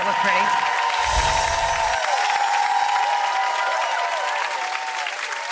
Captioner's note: audience cheering